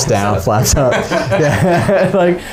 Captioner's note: men laughing